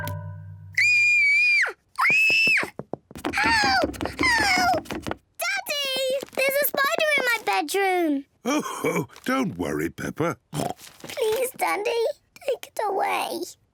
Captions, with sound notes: (SQUEALS) Help! Help! Daddy! There's a spider in my bedroom. (CHUCKLES) Oh, don't worry, Peppa. (OINKS) Please, Daddy, take it away.